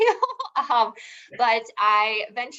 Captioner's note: laughing